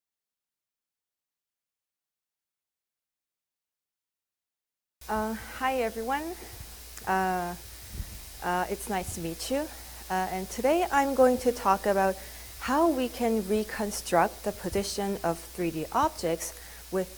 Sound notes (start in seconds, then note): 0.1 silence